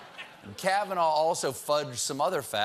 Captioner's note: laughter